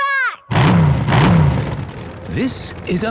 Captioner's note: engines revving